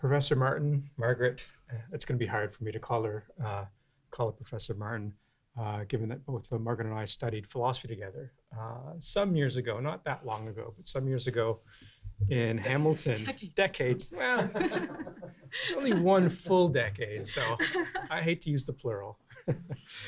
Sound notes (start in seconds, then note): 13.8 laughs; 13.9 class laughs